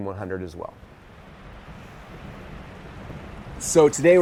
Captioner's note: waves crashing